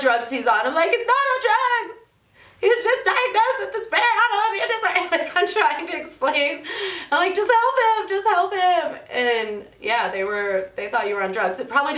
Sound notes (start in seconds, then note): 0.0 imitating a rough voice; 1.1 in an overwhelmed voice; 5.0 laughs